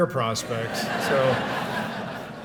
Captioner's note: laughter